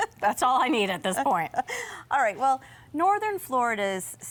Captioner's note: chuckles